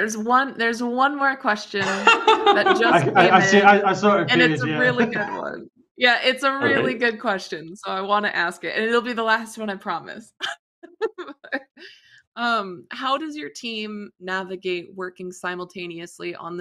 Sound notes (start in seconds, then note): 1.8 laughter; 10.9 laughs